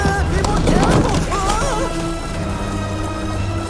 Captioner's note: carpenter groans